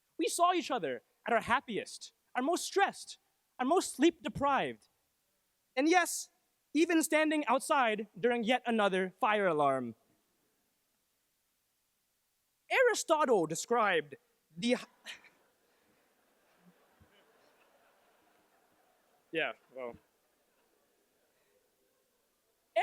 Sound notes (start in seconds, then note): 15.9 laughter